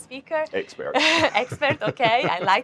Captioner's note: chuckling